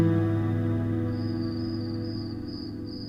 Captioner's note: chirping sound